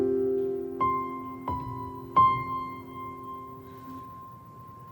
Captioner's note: sighs